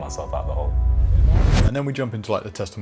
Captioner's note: vibration